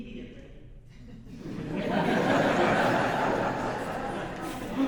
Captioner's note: audience laughs